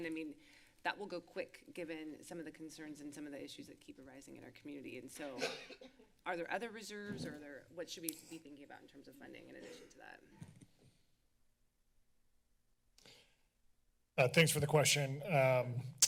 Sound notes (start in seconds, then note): 5.4 coughing; 10.4 silence